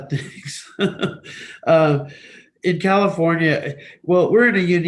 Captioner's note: laughs gently